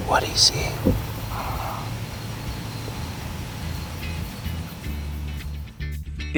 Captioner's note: whispering; whispering